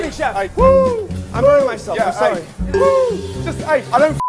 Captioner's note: Ramsay hooting; beep